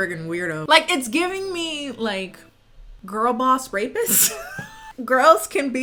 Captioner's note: laughs